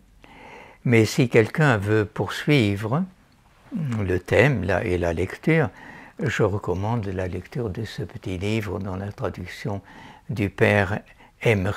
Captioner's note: French